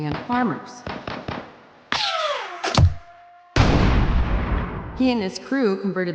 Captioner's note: gunshots firing